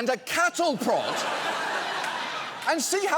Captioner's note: studio audience laughs